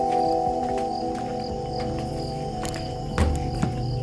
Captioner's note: uplifting music; insects chittering